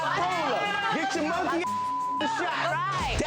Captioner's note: beeps